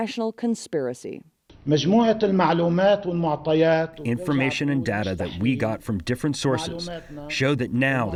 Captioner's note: through translator